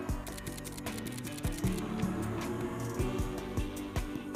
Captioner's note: camera clicking